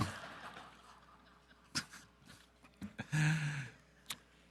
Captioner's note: audience laughing